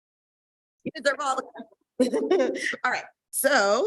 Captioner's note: chuckles